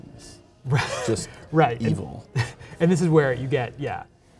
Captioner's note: chuckles